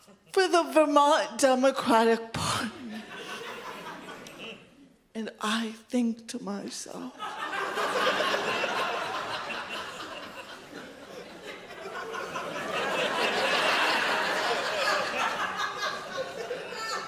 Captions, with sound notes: for the Vermont Democratic Party. And I think to myself, (audience laughs) (audience laughs harder)